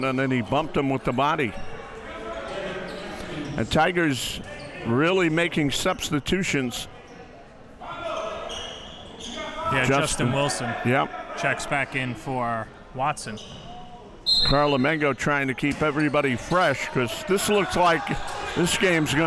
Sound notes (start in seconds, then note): 14.2 whistle blows